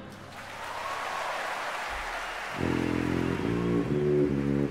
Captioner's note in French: applaudissements